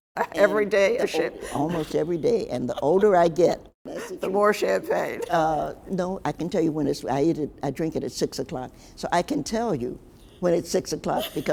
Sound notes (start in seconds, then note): 3.8 laughs